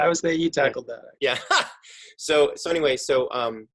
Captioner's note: laughs